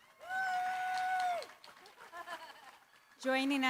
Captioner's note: cheering, applause